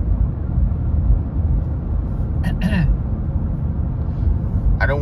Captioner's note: clears throat